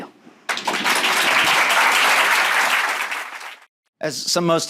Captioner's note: audience clapping